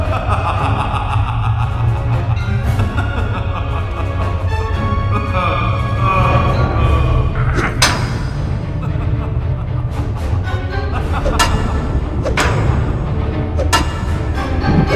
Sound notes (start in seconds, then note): 7.6 hammer knocking; 7.6 vampire laughing